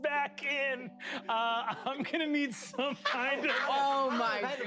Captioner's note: laughing